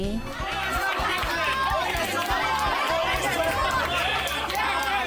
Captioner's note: people cheering and clapping